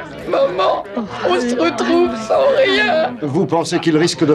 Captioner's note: sobbing